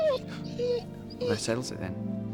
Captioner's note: whining